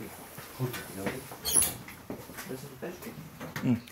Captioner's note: the sound of opening the door